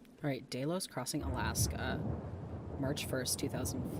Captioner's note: thunder